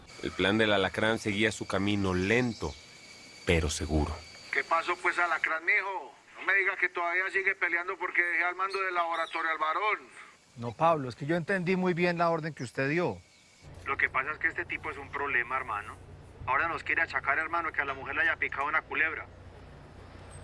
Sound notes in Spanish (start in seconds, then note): 4.3 Voz en la radio